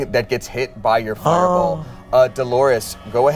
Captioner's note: gasps